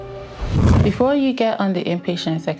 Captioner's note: air whooshing